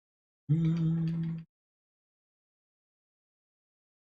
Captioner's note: hums